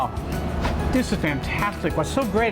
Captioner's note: swish